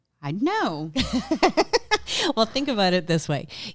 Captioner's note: laughs loudly